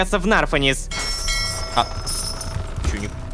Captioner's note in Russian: Звук корабельного колокола